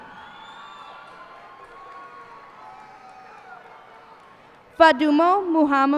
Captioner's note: cheers and applause